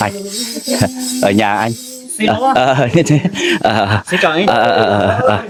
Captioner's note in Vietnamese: tiếng cười